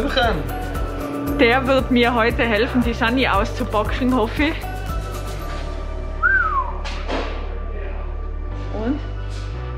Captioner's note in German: pfeift